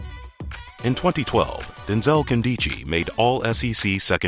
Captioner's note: voiceover